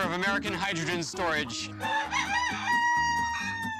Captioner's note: rooster crows